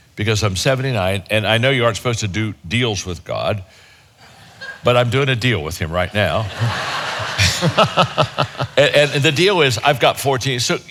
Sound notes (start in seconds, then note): 6.2 audience laughing; 6.3 laughs